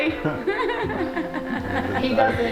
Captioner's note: laughing